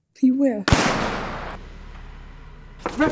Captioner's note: gunshot